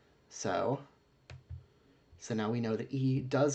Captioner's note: click